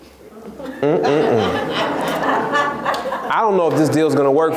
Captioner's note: laughs